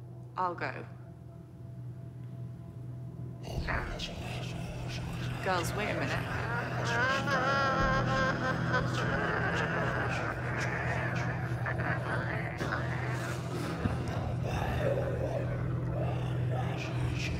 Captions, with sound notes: - I'll go. (growling) Girls, wait a minute. (suspenseful music) (growling)